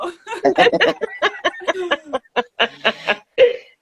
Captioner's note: laughing